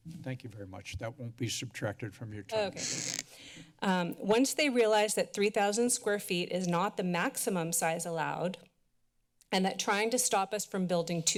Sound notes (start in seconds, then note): 2.6 mic sounds